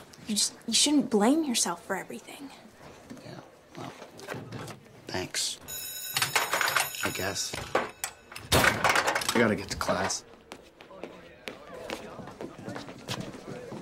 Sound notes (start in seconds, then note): 5.6 bell rings; 6.1 padlock rattles